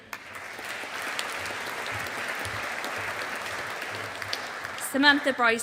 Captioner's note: audience applauding